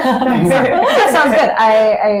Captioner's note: laughter